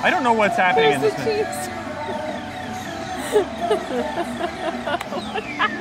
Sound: laughs

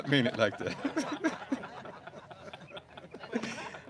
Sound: laughter

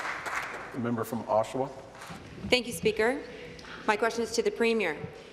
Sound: applause

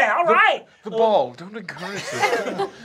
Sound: laughter

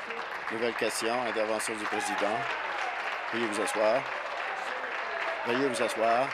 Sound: applause

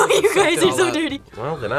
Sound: laughs

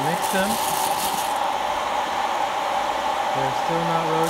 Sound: beans rattling

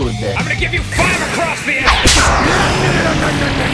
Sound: smack

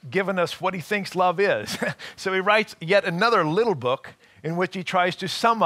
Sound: chuckling

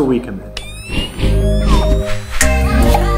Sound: camera flash charging; air whooshing; smooth music

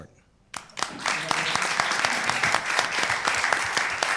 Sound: applause

